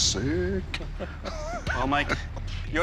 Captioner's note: laughs